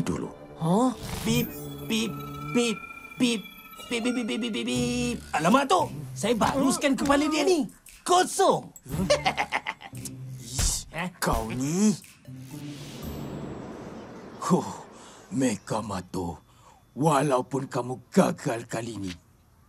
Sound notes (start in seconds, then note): 9.0 snickering